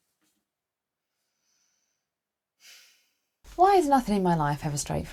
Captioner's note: big sigh